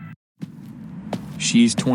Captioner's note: footsteps